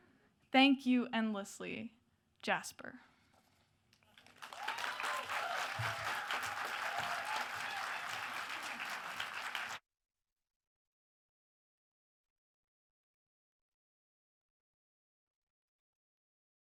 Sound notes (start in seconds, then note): 4.1 audience applauds and cheers